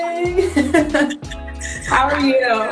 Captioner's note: laughing